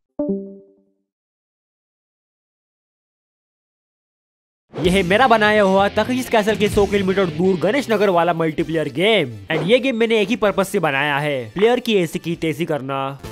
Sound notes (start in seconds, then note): 0.8 silence